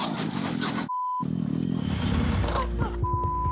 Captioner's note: beep